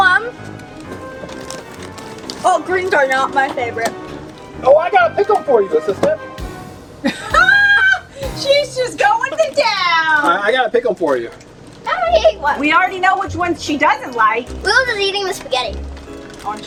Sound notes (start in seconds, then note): 7.0 laughs